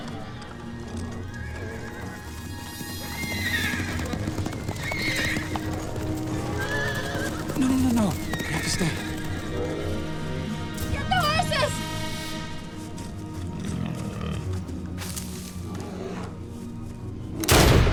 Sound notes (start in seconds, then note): 5.2 neighing